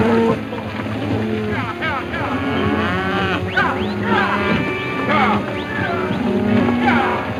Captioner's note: cowboys whistling; cattle mooing; cowboys shouting